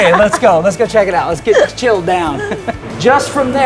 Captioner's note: laughing